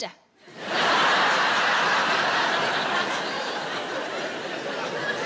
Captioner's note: audience laughing